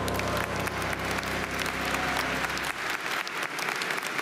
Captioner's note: audience applauding